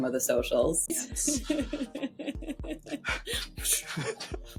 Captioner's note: laughing